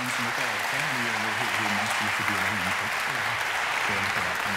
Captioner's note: applause